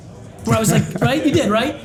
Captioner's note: laughs